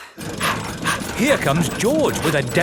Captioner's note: daddy pig panting